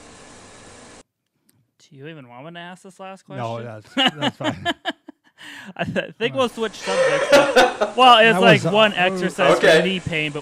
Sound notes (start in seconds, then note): 3.4 laughs